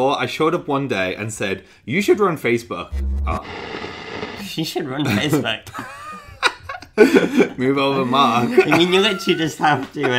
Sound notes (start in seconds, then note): 2.9 buzzing; 5.7 laughing